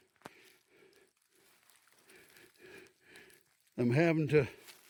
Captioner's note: breathing heavily